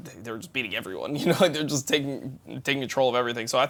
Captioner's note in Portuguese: risos